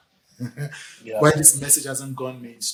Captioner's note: laughs